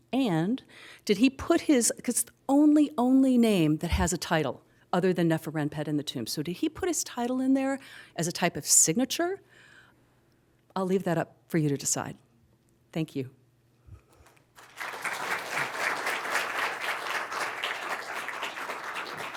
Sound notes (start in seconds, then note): 14.5 applause